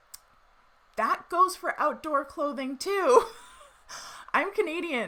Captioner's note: laughs